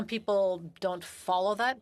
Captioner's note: speaking French